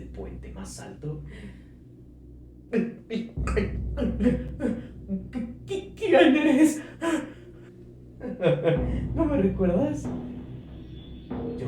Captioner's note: evil laugh